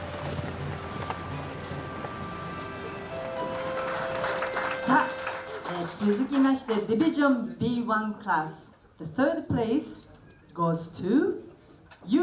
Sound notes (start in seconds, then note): 3.1 applauding; 6.5 speaking in foreign language